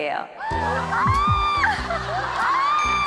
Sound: heart pounding

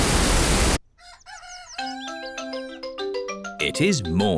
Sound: cockerel crows

